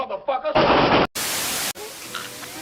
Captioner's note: gun Shots; TV Static